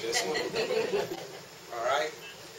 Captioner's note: laughter